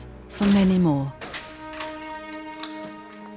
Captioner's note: lock clicks; somber music